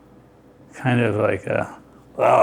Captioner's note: gargling